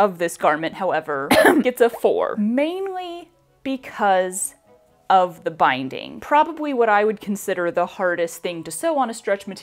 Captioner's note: ahem